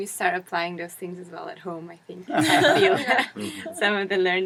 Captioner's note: laugh